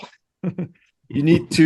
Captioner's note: laughs